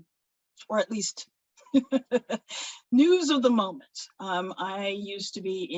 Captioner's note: laughs